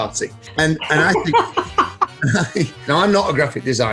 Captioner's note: laughs